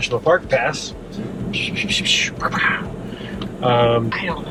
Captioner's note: making whoosing sound effects